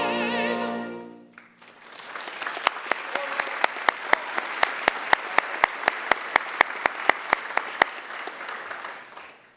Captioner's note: applause